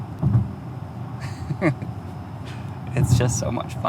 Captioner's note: laughs